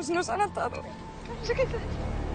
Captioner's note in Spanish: Sollozo